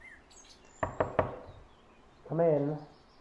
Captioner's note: knocking